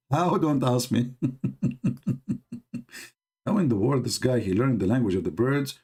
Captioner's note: Ketawa